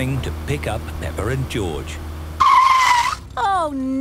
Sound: tires screeching

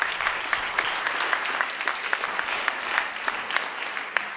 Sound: audience applauding

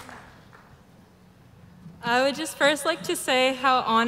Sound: applause

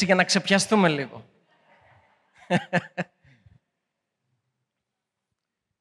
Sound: laughing

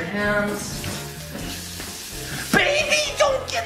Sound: running water faucet

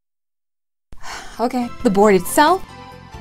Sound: sigh

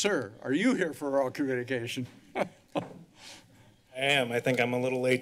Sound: laughter

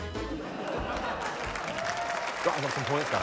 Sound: laughter, applause

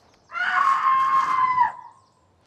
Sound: Jess screams

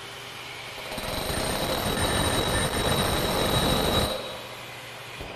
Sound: vacuum motor running; drill motor running

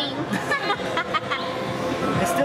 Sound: laughs

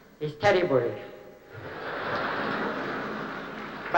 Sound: laughter

